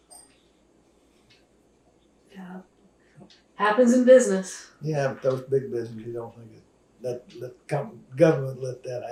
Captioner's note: laughs